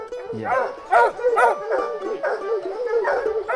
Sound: dogs barking

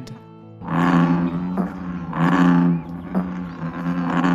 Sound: frogs croaking

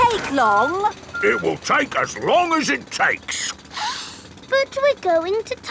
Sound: sniffs

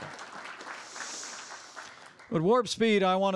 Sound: applause

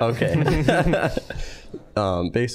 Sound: all laughing

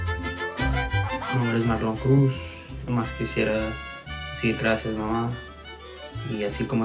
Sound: speaks in foreign language

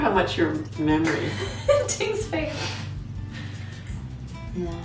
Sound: laughing

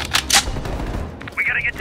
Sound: gunshots

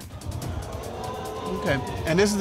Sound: audience exclaiming

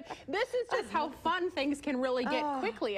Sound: laughter

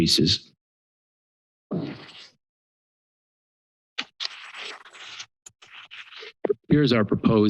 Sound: pause

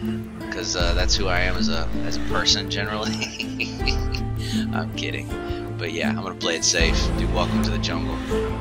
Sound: laughs

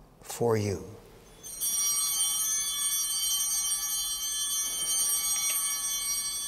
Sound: chimes ringing

